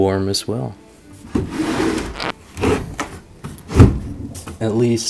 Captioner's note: opening and closing drawers